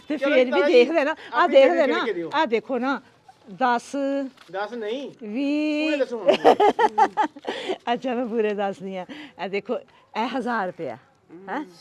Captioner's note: giggling